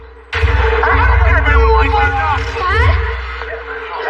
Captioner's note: shouting